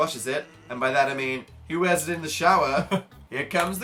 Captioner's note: laughs